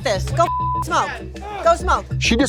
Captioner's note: beep